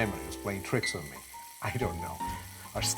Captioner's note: sizzling